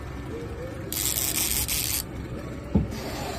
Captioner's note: nat sound - fishing reel spinning